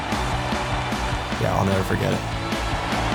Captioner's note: crowd cheering